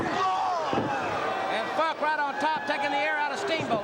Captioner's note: crowd chattering